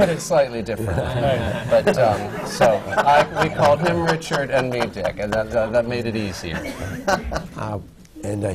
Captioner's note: laughter